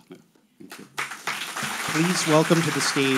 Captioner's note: audience applauding